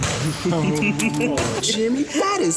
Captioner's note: laughter